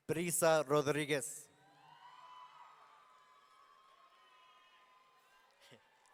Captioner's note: audience cheering